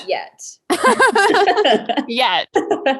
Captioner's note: both laugh